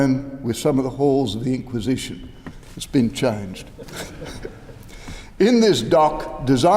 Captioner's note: laughter